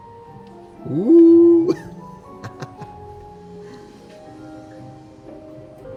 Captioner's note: riendo